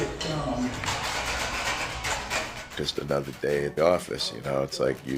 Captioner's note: voz en off